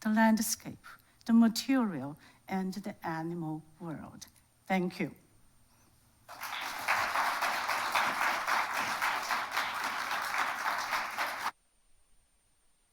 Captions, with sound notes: the landscape, the material, and the animal world. Thank you. (audience applauding)